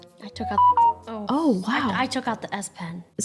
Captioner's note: phone beeping